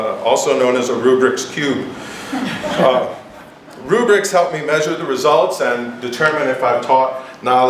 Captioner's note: giggles